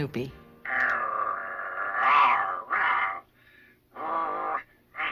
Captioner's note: snoopy noises